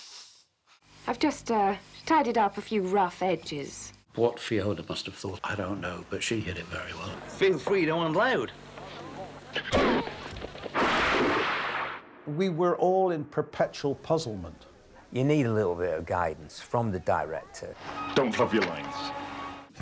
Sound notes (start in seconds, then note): 9.7 groans; 9.7 water crashes